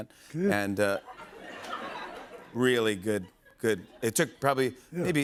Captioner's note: laughter